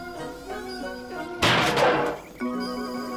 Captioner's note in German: klirrt; lustige Musik